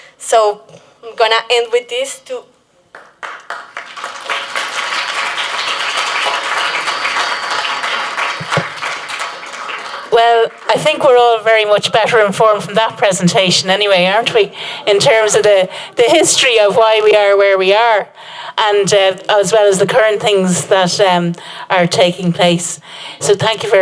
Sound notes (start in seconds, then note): 2.9 applause